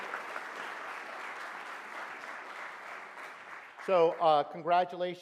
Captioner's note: audience applauds